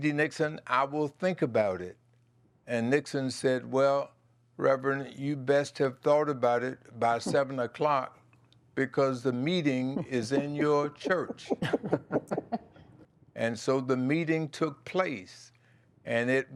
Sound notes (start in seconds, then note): 11.6 laughter